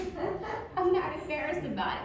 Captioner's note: audience laughing